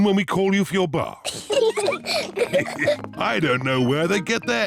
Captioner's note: peppa and george giggle